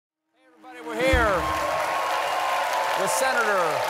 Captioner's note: cheers and applause